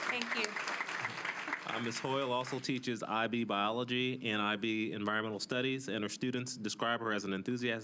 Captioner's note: applause